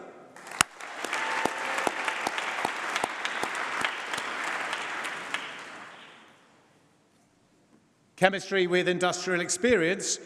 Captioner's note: applause